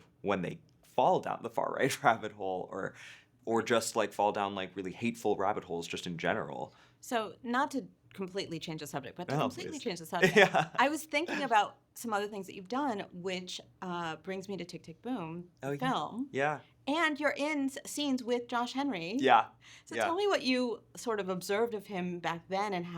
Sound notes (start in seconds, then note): 10.2 laughing